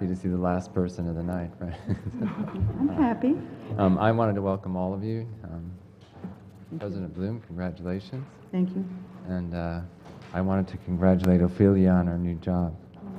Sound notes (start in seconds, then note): 1.7 laugh